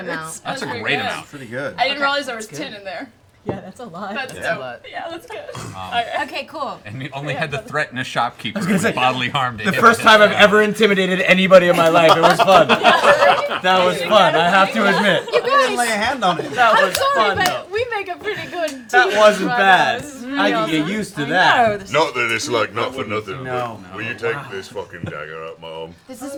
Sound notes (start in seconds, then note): 11.7 laughter